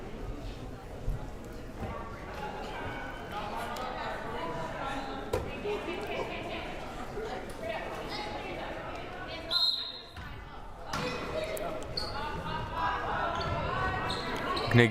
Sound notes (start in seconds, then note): 9.5 whistle blaring; 11.1 crowd murmuring